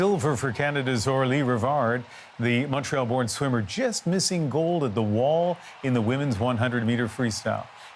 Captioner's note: applause